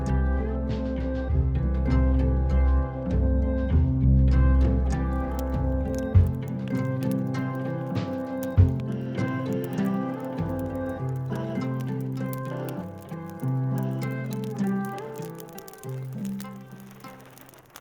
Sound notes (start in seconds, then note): 0.9 gentle music; 6.1 fire crackling